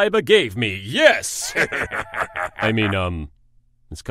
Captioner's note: Melvin laughs